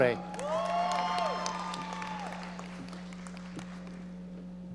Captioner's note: audience cheering